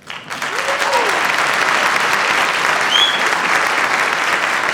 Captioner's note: audience applauds